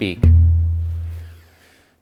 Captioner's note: hollow thud